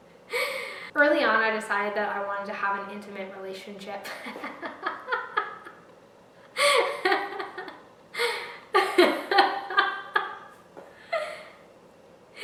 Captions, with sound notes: Early on I decided that I wanted to have an intimate relationship... [laughter]